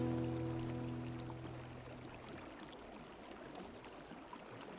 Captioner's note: water rushes